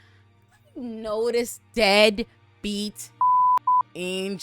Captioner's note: beep